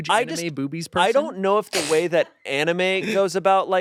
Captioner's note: snickers